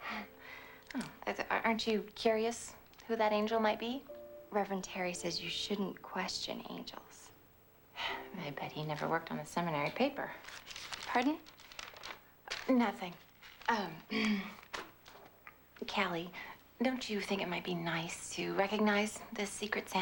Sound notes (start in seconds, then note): 14.5 clears throat